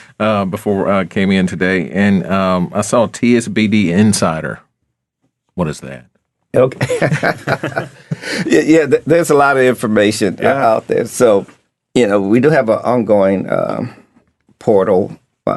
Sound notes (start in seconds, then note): 6.7 laughing